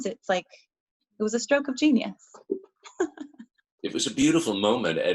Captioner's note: laughs